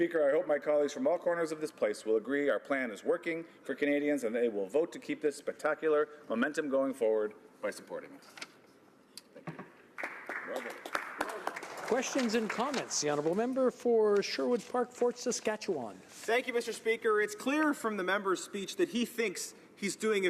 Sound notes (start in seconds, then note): 14.4 some Applause